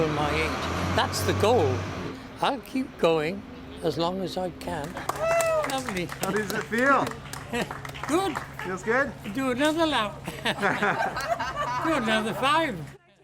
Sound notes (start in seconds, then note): 10.0 applause